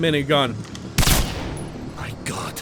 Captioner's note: gunshot